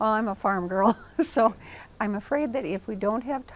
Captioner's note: chuckles